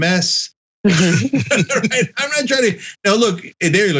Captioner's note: laugh